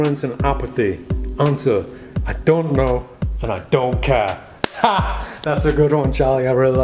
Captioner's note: chuckling